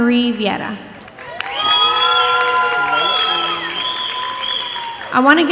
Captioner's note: audience applauding and cheering